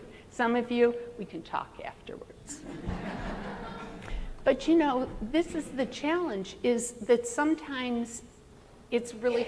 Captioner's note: laughter